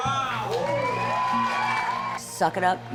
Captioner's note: applause & cheering